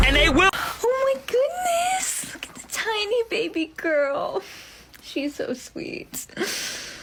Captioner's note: sweetly; loud breath